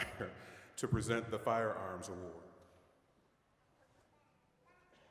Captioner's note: chuckling